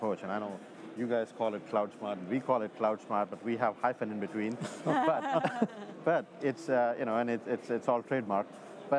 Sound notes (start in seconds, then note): 4.6 all chuckles